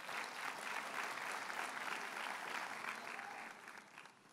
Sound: audience applauds

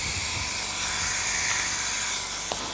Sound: hissing

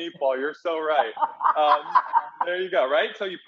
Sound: laughing

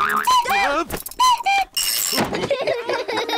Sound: clock cuckoos; all laugh

